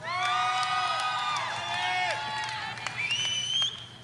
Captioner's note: audience cheering